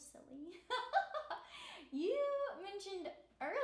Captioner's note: laughing